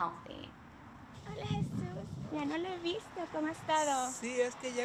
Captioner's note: speaking in Spanish